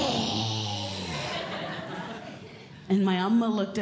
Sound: audience Laughing

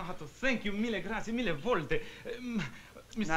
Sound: speaking italian

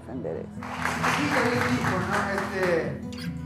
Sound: applause

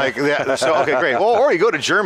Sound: hearty laughing

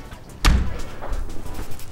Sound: door slam

